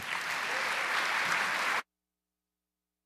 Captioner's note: applause